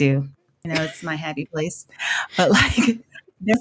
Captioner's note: chuckles